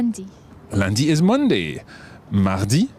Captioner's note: speaks in foreign language